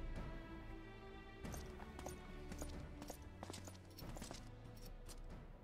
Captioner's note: footsteps